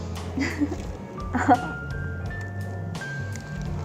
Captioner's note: laughs